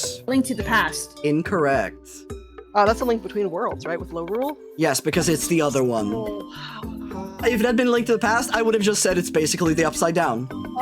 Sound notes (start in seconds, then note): 6.5 sigh